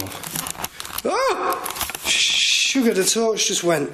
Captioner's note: surprised yelling